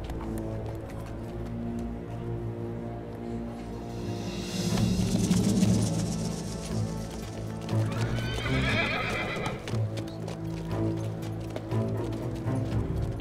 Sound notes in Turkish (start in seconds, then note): 7.7 At kişniyor; 10.0 Gerilim müziği